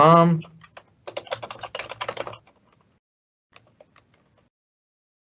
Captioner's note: keyboard clicking